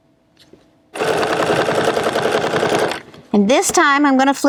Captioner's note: machine whirring